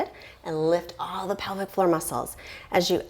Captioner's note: deep breathing sounds